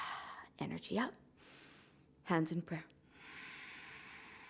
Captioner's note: inhaling; exhaling